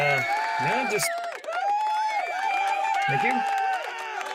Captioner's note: audience cheering